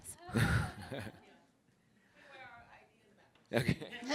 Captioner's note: laughter; laughter